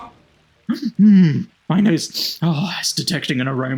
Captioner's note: sniffs